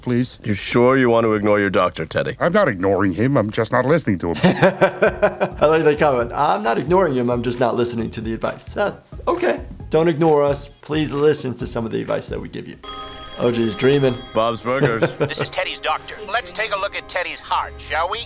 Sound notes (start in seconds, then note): 4.3 laughing; 12.8 phone rings